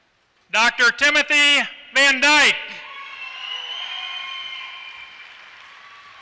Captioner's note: applause